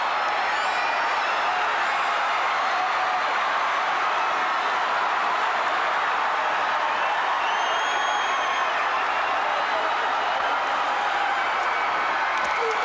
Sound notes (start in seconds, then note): 0.0 crowd cheering; 1.1 crowd chatter